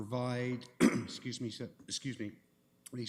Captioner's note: throat clearing